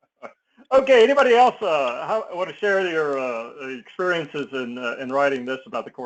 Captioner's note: laugh